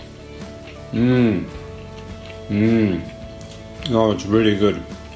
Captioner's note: sounds of satisfaction